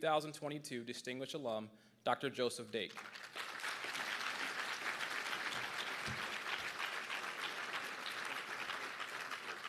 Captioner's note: applause